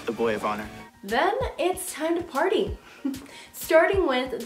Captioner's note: chuckles